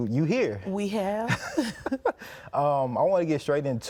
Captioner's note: both laughing